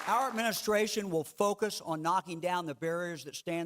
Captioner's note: clapping